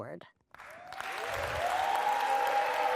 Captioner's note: cheering